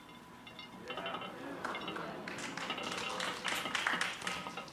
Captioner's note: audience clamors